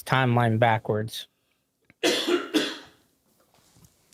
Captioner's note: coughing